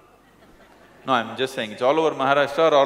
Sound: laughter

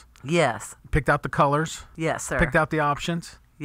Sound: voiceover

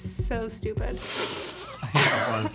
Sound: snorting

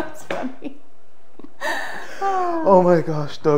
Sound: both laugh

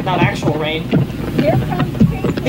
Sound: background noise/chatter in clip

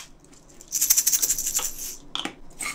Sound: shake shake

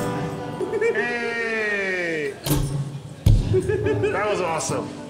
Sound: laughs

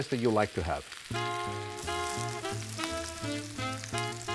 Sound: sizzling

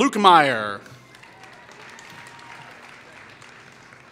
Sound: applause

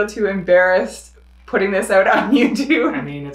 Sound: laughs

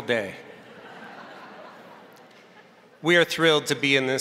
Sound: crowd laughing

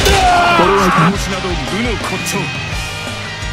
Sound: KO Scream

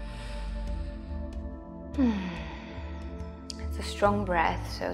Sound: sighs

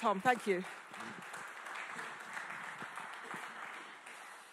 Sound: audience clapping

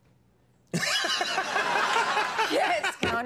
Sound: Conan Laughs

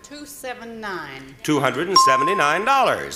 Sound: bell rings

